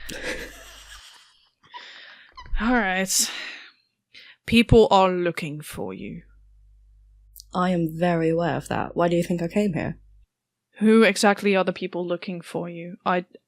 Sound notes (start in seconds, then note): 2.7 laughter